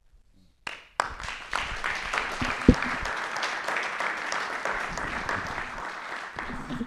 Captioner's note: applause